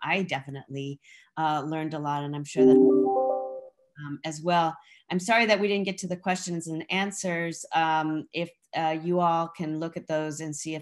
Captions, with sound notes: I definitely learned a lot. And I'm sure that-- [PHONE RINGTONE] --as well. I'm sorry that we didn't get to the questions and answers. If you all can look at those and see